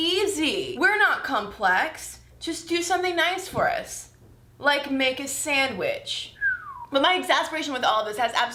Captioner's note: whistling